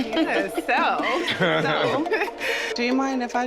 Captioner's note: all laughing